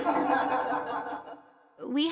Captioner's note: class laughing